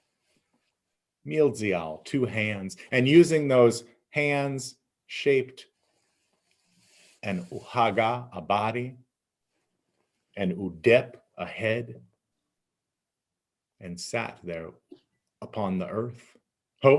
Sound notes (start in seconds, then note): 5.8 speaking in Abenaki; 9.4 speaking in Abenaki